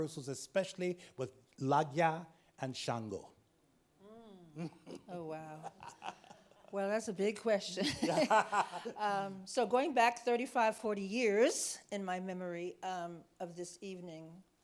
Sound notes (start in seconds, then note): 4.1 laughs; 7.7 laughing